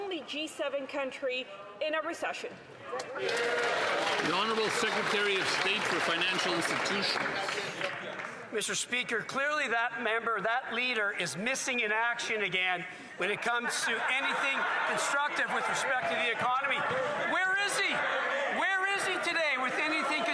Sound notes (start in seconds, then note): 7.7 some Applause